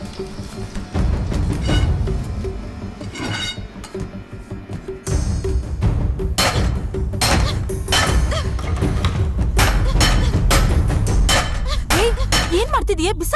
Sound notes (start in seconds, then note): 1.5 iron rod sound